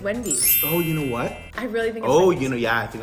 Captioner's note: chimes